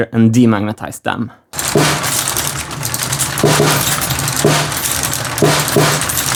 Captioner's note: machine sounds